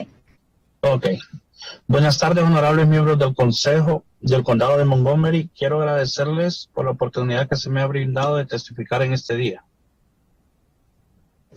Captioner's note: spanish